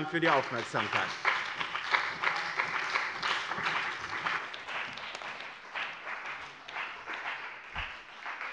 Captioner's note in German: Beifall bei dem BÜNDNIS 90/DIE GRÜNEN und der CDU